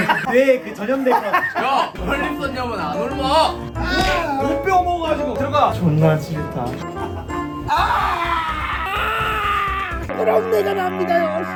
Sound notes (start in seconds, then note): 7.6 ugh